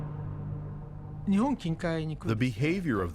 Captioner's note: speaking Japanese